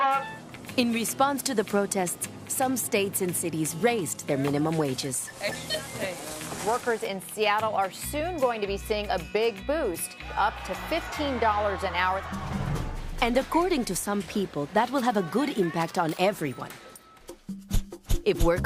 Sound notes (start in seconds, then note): 10.2 cheers